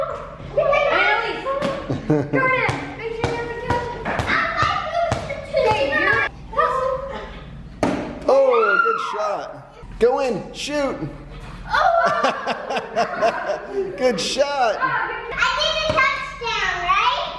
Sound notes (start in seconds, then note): 11.7 kids exclaiming; 12.0 laughing